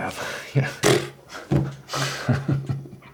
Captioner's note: Abe scoffs; Abe laughs